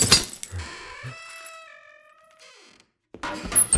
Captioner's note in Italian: scricchiolio della porta